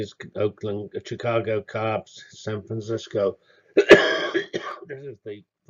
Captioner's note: cough